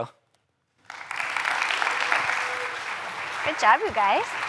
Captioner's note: applause